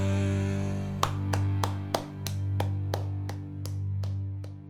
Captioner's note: clapping